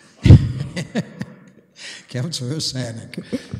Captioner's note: laughing